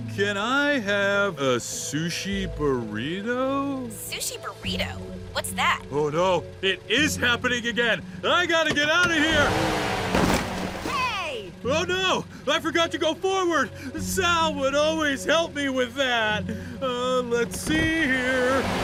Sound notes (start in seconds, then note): 9.9 engine revs; 10.0 crash; 14.5 upset